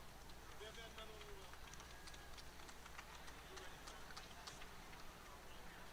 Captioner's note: applause